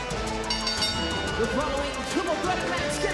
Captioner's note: bell rings